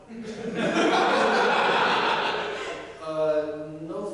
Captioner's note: audience laughter